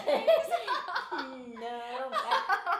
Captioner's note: laughing